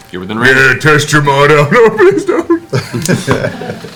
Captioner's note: sobs